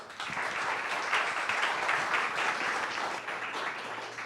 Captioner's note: audience clapping